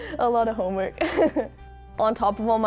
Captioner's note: laughs